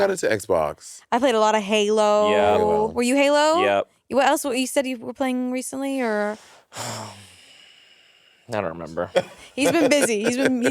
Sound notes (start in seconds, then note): 6.7 sighing; 9.1 Monét laughing